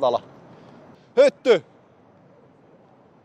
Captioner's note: Yelling for Tuomas Hyytiäinen to be aware